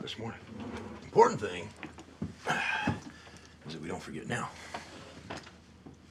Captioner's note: sighs